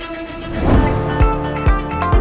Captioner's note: air whooshes; lively pop music